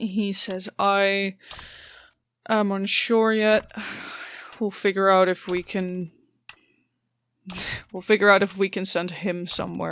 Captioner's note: sighs